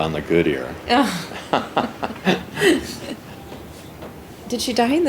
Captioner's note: lightly laughing